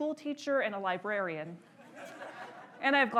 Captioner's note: audience laughs